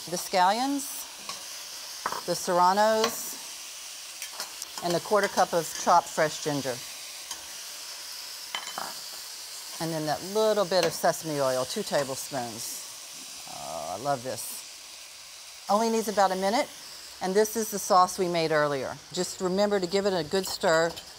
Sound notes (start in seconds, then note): 7.2 sizzling